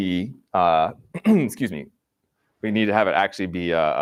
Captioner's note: clears throat